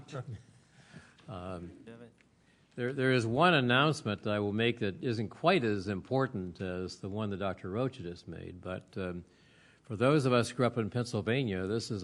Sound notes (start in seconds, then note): none